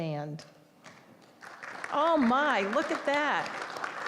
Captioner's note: applause